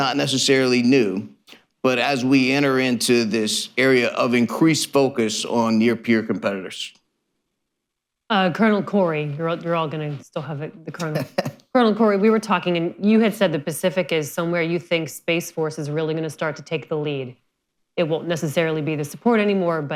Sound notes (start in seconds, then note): 11.0 laughter